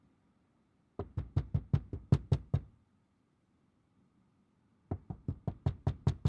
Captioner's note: tapping on window continues